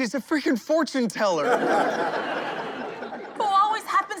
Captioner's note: laughing